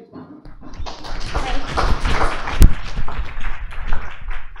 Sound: applause

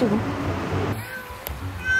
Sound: meow

